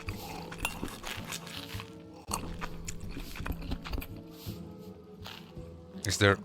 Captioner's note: chomping